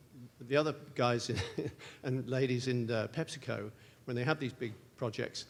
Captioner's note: laugh